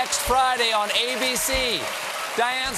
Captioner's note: cheers and applause